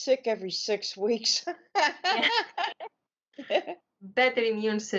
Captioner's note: laughing